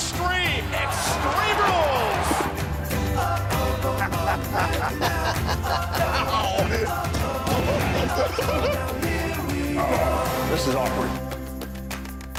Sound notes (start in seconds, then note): 6.2 laughter